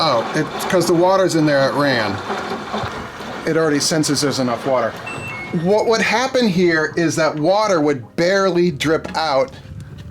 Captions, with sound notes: Oh, cause the water's in there it ran. It already senses there's enough water. (washing machine beeping) What would happen here, is that water would barely drip out,